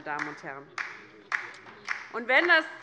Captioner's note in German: Beifall bei der LINKEN